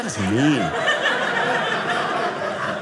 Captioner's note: audience laughing